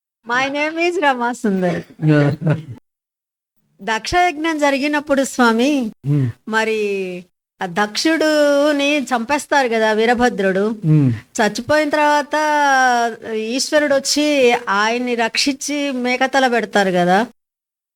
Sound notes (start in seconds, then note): 3.4 asking in Telugu language